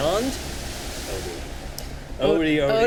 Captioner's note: water splashes